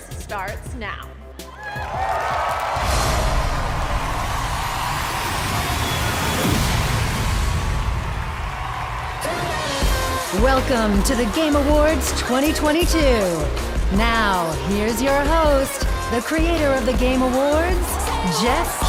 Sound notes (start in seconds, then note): 11.8 cheers and applause